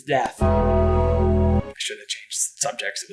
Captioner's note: Undertaker bell